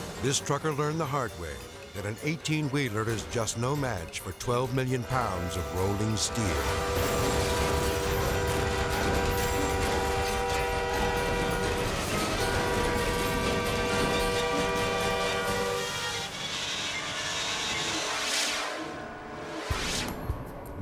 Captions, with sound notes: This trucker learned the hard way that an 18 wheeler is just no match for 12 million pounds of rolling steel. (train horn blaring) (vehicles crashing) (air whooshes)